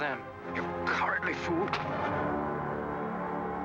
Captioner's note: smack; dramatic music